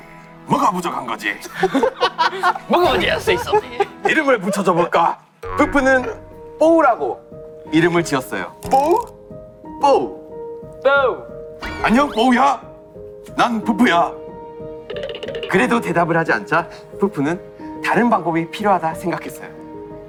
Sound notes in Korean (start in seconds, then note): 11.4 낮고 깊은 목소리